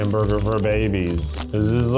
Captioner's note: rustling